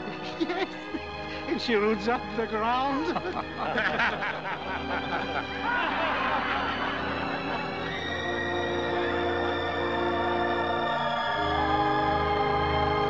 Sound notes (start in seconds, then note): 0.1 laughing; 4.5 crowd Laughing